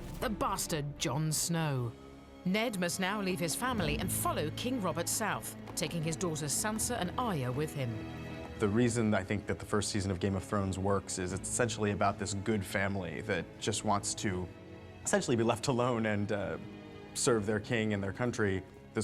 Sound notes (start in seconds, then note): none